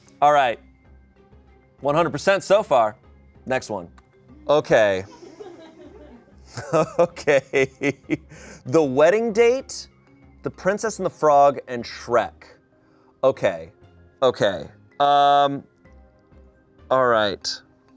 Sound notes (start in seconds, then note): 4.4 laughs; 4.5 people laugh